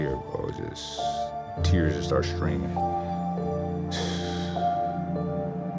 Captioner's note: exhales